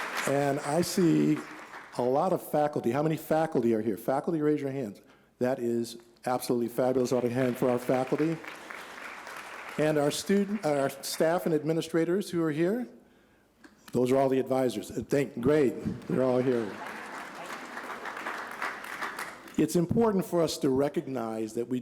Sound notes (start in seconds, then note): 7.0 applause; 15.8 applause